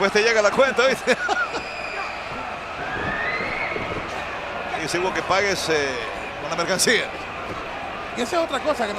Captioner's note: laugh